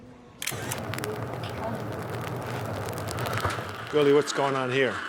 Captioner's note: camera clicking; fire burning